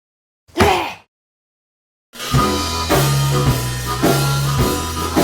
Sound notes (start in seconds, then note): 0.7 exasperatedly exhales; 2.2 jazzy music